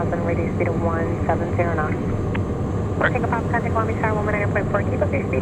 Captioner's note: radio chatter